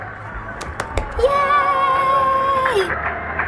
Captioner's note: excited